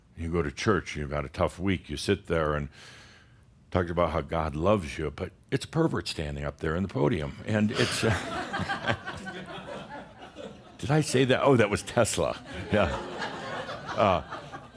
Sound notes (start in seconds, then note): 7.7 laughter; 12.1 more chuckles